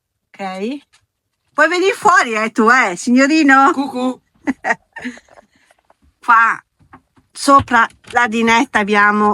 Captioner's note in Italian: risate